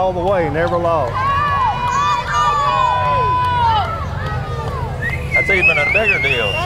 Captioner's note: children cheer